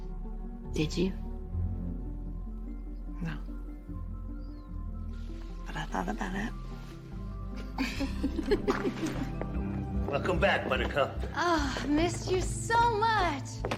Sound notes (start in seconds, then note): 7.6 laughing